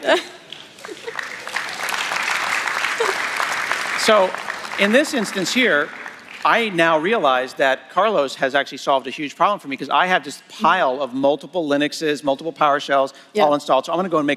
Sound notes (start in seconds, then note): 6.2 applause